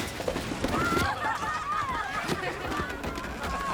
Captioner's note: kids laughing